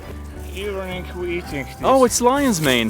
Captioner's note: guide speaking foreign language